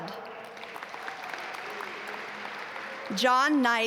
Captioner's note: audience applaud